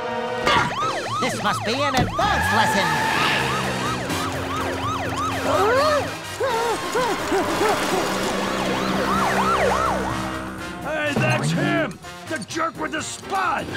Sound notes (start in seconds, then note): 2.8 siren blaring; 5.9 panting; 7.6 siren blaring